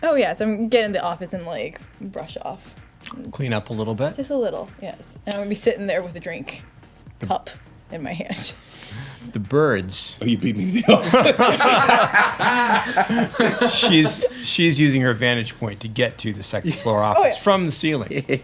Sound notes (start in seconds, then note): 10.7 laughter; 18.1 laughing